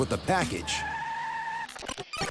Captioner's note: tires squeal; tape rewinding